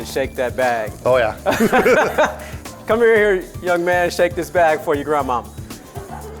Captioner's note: laughter